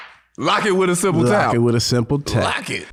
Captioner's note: claps